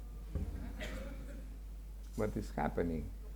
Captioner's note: audience laughing